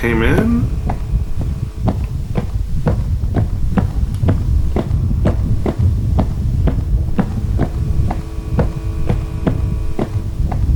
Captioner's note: footsteps